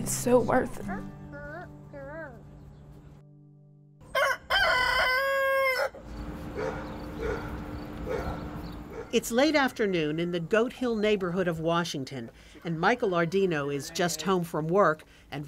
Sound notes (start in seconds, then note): 4.0 rooster crowing; 6.5 dog barking